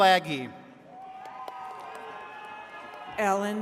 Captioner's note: attendees cheering